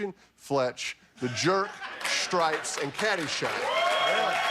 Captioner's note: laughter